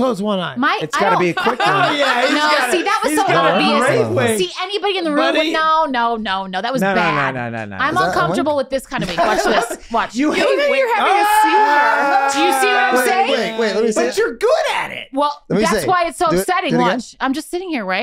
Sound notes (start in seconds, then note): 10.9 Glenn cheering